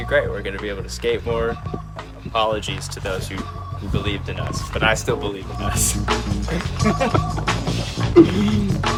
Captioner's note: laughs